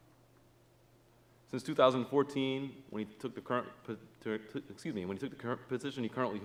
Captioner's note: stutters